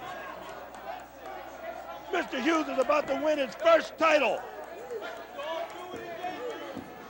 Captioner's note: crowd chatter